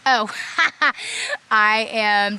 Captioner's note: laughs